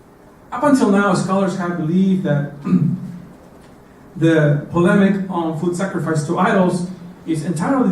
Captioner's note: cough